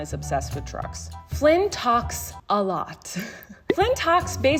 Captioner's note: chuckles